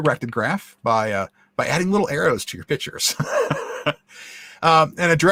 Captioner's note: laughs